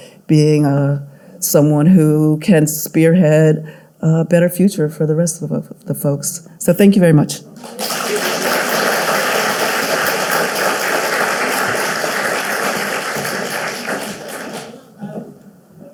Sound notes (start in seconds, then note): 7.6 audience clapping